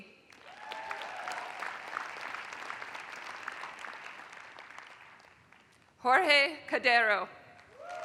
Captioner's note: applause; applause